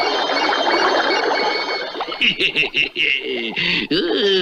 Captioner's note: Simon Bar Sinister Laughs